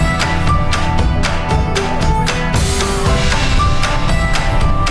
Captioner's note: passengers chattering